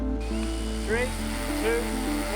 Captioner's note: drone whirring